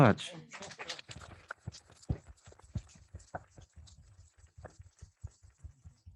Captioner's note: audience clapping